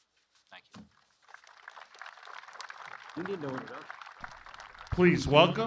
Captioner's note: applause